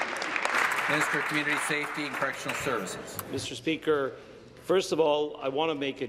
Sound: applause

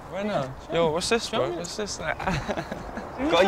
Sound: laugh

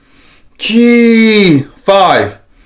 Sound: inhales; inhales

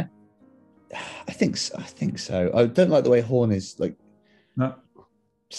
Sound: sighs

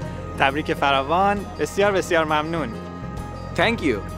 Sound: man speaking in foreign language

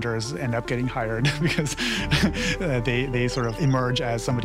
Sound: laughs

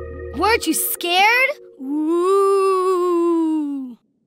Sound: ghost noises

